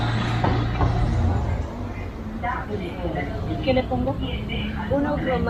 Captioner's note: traffic Noise